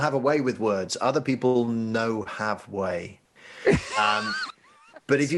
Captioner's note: laughing